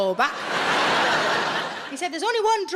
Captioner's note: audience laughing